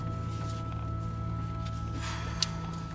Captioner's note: sighs heavily